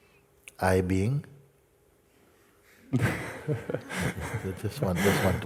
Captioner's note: laughter